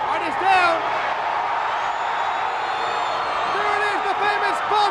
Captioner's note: applause